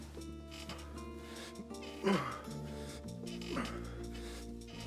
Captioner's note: grunting